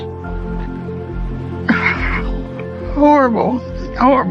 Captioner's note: sobs softly